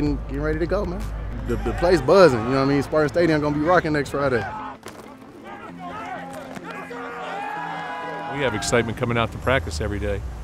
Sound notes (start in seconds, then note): 5.9 players yelling